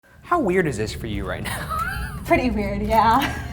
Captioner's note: laughs